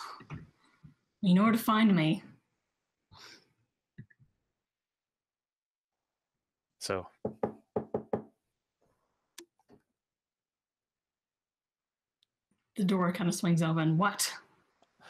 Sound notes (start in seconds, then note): 7.2 knocking